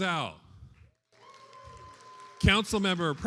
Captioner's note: attendees applauding